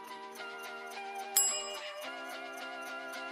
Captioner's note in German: fröhliche Musik; Glockenläuten; fröhliche Musik